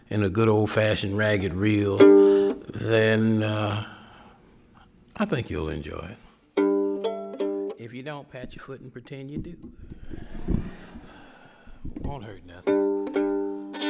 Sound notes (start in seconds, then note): 10.2 audience laughing